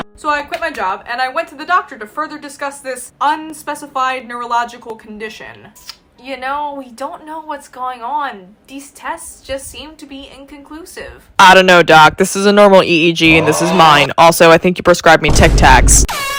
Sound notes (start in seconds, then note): 6.1 sucks teeth